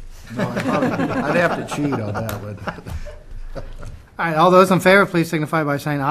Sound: laughter

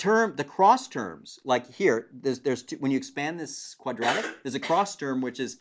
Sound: cough

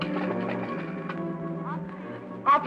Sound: on phone

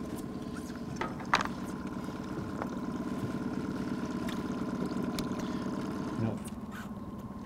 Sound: winch motor running

